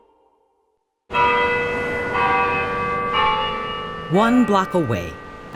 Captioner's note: chimes ringing